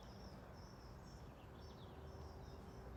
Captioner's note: blackbird singing